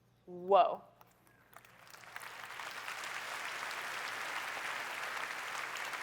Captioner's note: applause